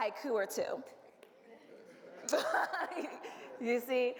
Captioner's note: audience laughs